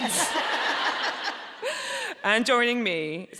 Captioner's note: audience laughing